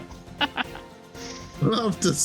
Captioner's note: laughs